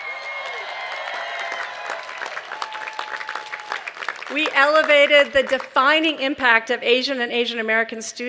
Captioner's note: cheering